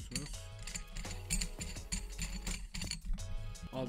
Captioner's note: screw turning sound